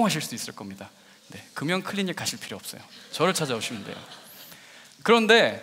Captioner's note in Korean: 웃음